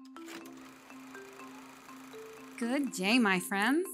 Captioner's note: gentle music; film reel whirring